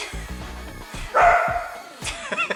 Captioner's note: dog bark; laughter